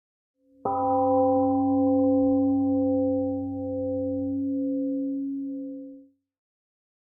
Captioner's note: temple gong rings and fades